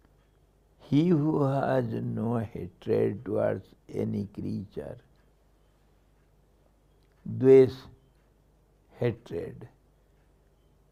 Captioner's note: sanskrit